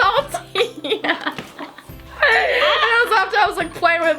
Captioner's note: laughing